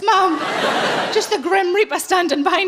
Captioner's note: laughing